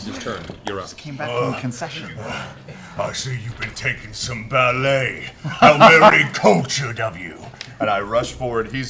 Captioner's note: grunts, pants